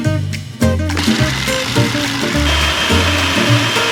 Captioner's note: blender